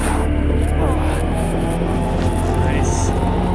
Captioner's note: grunting